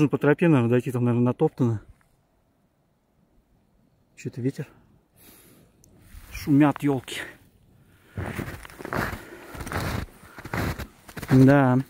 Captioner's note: snow crunch